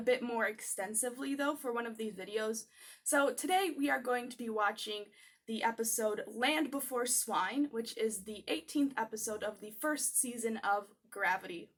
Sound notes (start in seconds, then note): none